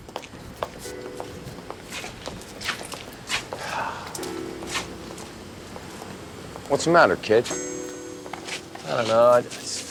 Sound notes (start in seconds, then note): 1.5 footsteps approaching; 3.5 sighs